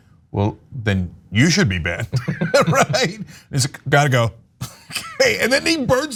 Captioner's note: laugh